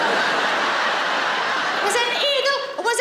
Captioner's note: laughing